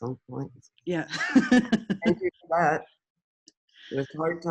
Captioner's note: chuckles